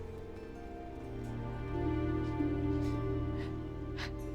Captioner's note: sobs